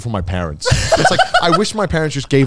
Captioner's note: laughing